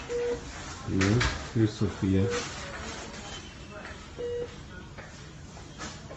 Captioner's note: machine beeping